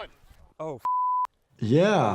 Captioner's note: beep